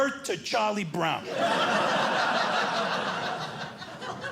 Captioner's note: audience laughing